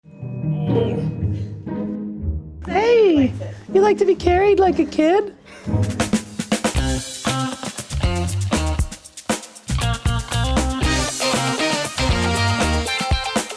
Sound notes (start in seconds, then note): 3.1 high voice; 5.6 upbeat theme music